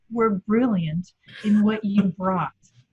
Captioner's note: chuckles